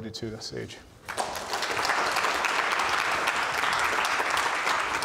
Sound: audience applauds

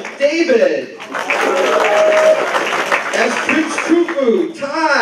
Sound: applause

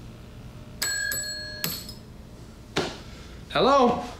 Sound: bell dings

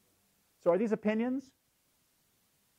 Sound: none

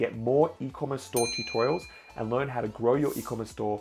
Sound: bell dings

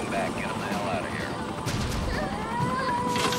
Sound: girl crying

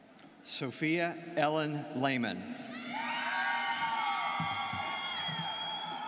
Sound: students cheering

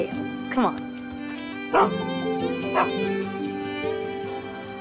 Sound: Dancer barks excitedly

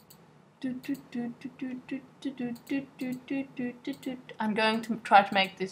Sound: humming

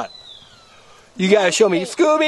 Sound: voiceover

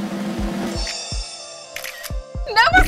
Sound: camera flashing

